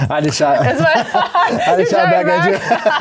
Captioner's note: laughing